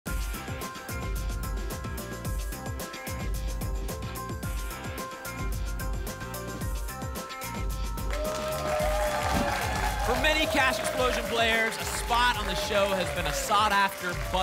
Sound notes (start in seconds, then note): 7.9 applause and cheering